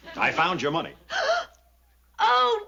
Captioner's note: gasping